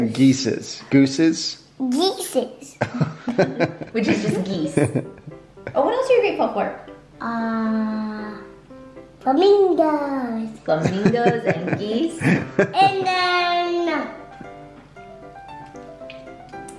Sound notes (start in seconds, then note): 2.8 laughing; 10.5 laughing